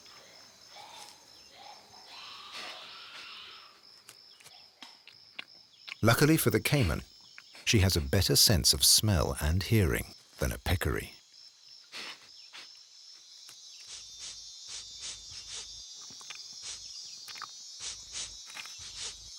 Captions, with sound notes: Luckily for the caiman, she has a better sense of smell and hearing than a peccary. (peccary sniffing)